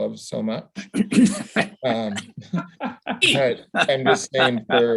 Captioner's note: laughs